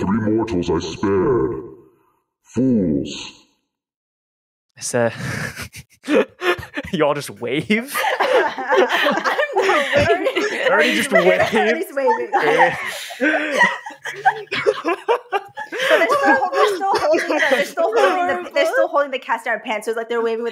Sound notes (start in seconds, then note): 5.8 laughs; 8.2 laughter; 14.9 everyone laughs harder